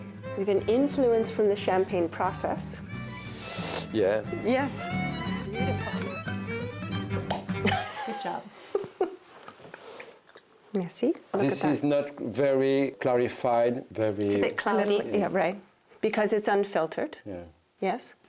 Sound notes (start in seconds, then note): 7.2 cork pops; 7.6 chuckles